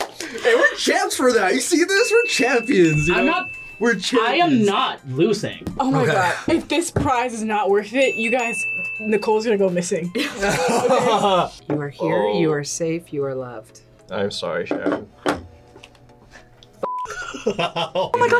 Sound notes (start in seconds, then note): 10.1 group laughs; 17.0 laughs